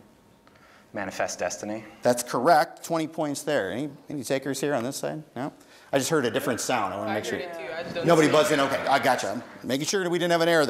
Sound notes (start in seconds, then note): 8.0 contenstants murmuring